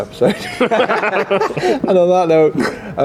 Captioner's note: group laughs